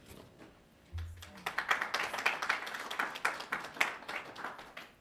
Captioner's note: applauding